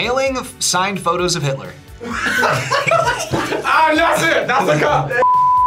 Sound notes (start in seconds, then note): 2.0 group laughs; 5.2 screen beeps